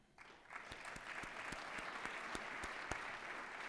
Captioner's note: applause